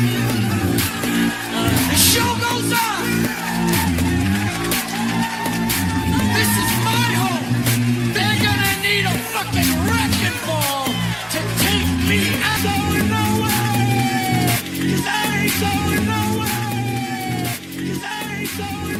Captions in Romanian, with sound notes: show goes [Aplauze] up This is my They need a fucking Ball to take me